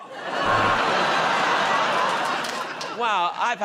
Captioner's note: audience groans